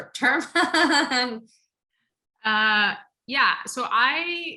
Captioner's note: laugh